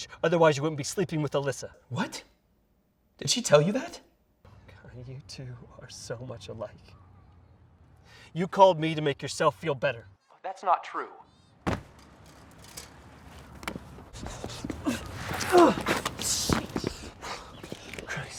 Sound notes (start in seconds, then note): 11.6 thud; 15.4 Mark grunting